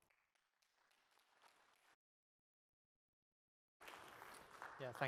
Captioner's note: applause